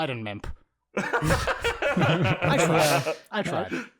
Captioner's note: laughter